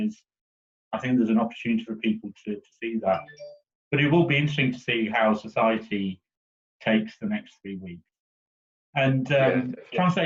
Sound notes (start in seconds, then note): 3.1 cell phone beeps